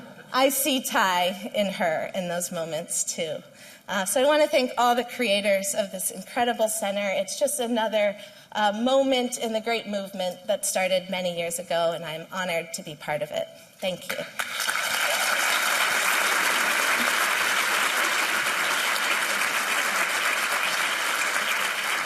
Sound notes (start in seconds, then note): 14.1 applause